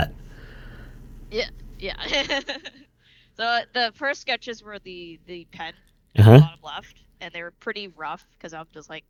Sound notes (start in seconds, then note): 2.7 laughs